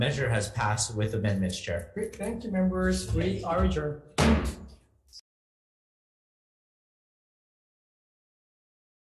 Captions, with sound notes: Measure has passed with amendments, Chair. - Great, thank you, Members. We are adjourned. (gavel bangs)